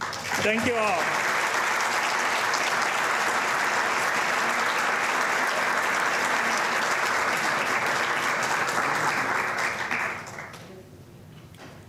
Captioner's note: applause